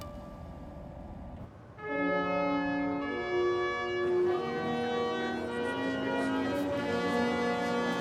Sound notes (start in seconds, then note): 1.7 regal horn music; 2.2 people chatter indistinctly